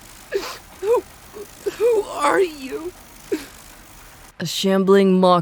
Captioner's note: crying; whimpering sobs; crying